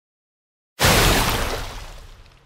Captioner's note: splash